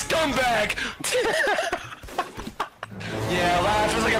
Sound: laughter

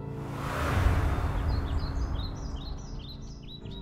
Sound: birds chirping

